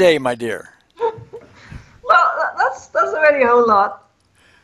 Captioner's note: laughing